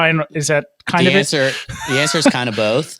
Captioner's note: chuckles